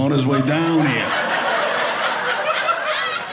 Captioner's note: audience laughing